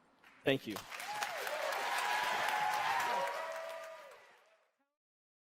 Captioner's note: audience applauding